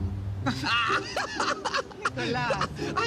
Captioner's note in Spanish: Carcajadas